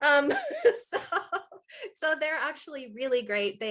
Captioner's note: laughing